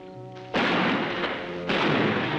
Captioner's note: gunshots